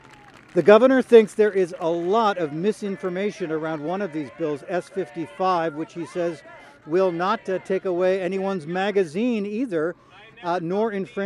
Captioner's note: applause